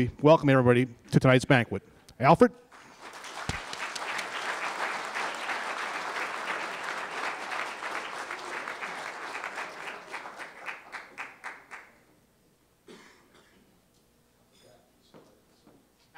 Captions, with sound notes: Welcome, everybody, to tonight’s banquet. Alfred? [applause]